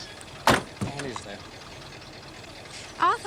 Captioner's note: car door thudding